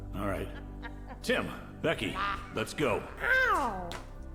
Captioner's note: Tim laughing